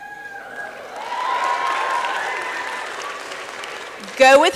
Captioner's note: applause and cheering